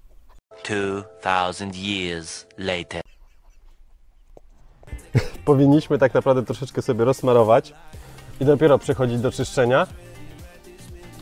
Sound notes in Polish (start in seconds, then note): 3.0 śmiech